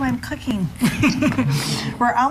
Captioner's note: laughing